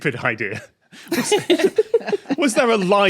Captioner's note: group giggling